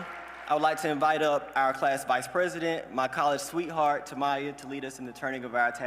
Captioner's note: applause